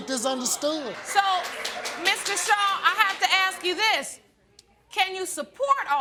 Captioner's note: audience applauding